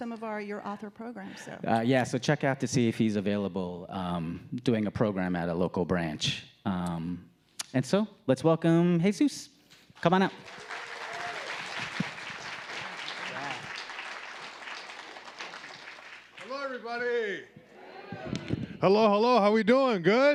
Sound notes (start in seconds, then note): 10.0 audience clapping